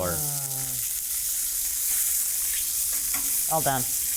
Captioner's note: skillet sizzling